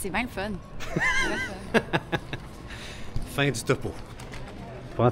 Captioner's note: laughs